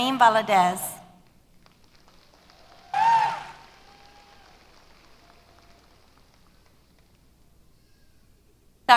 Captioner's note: applause